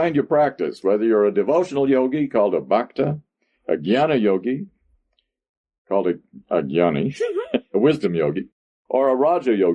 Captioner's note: laughs